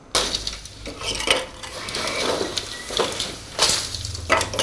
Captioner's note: wooden clacking